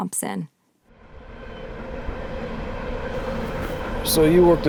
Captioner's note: train rattling